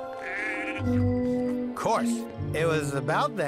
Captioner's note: goat bleats